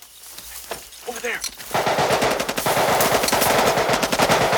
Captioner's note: rapid gunfire